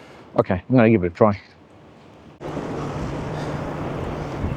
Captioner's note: wind blowing